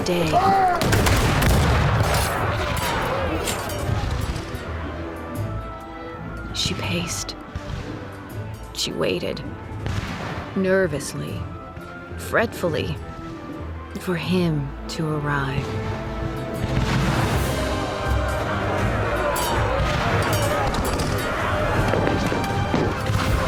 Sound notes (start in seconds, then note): 0.7 gunfire